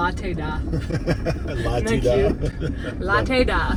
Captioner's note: laughing